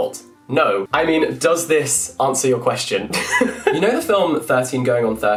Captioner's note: laughs